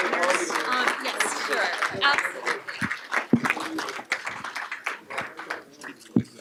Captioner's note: applause